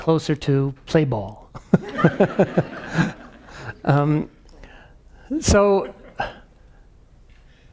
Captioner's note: laugh